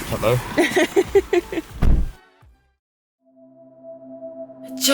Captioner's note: laughing